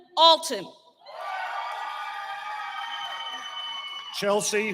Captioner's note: cheering